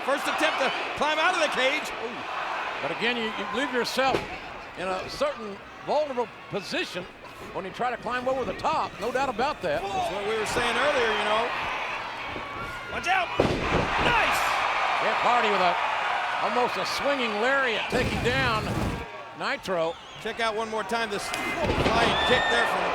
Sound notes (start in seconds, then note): 14.0 audience cheering; 14.0 bodies thud